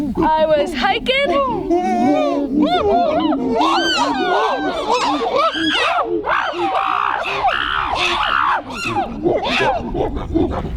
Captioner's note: lound chimp sounds